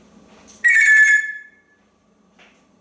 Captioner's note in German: telephone sound